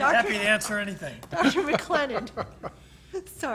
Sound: laughter

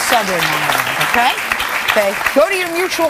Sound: audience clapping

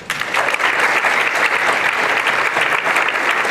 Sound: applause

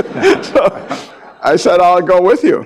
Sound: laughs; audience laughing

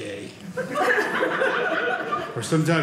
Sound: audience laughing

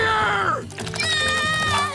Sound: screaming

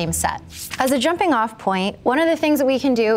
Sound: page flapping

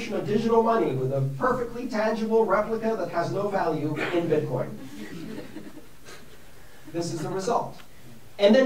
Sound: laughter

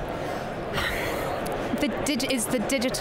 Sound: sighing

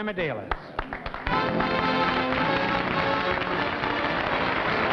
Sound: applause

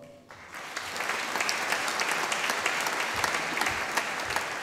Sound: audience applauding

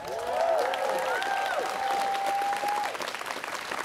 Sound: students cheering

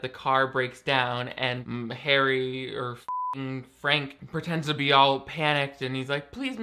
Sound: beep

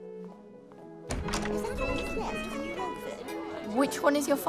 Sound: posh conversation

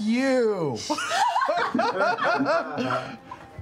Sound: laughter

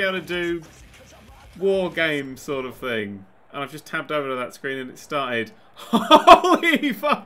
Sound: laughing

